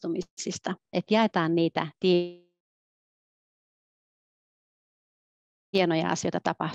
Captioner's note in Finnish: ääni katkeaa